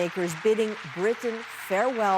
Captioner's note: applause